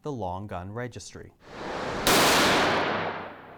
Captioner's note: gun fired